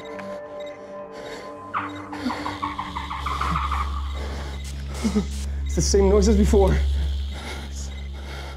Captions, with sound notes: [ HIGH-PITCHED SQUEAKING ] THAT'S THE SAME NOISE AS BEFORE.